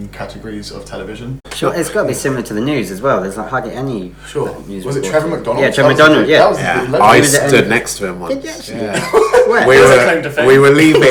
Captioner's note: laughs